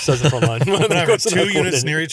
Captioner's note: laughs